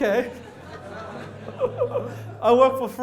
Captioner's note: audience laughter